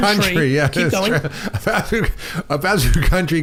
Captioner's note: laughs